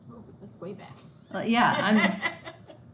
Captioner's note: laughs